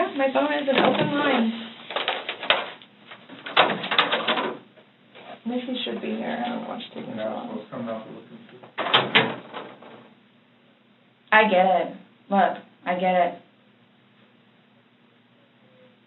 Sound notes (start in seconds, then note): 3.4 door opens loudly; 8.7 door shuts loudly